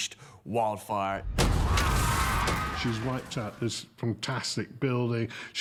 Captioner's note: screaming